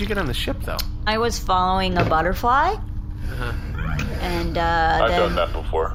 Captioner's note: C-53 and Pleck make thoughtful noises